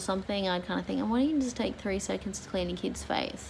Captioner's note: mocking voice